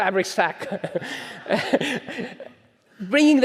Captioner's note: audience chuckles